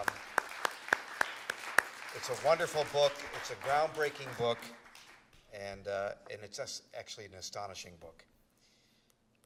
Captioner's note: applause